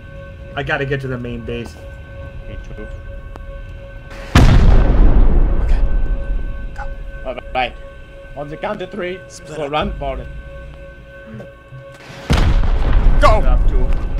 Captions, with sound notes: I gotta get to the main base. - Me too... [Boom] [Whispers] Ok! Go! Alright! On 'ze count of three... Split up! -we'll run for it! [Boom] GO!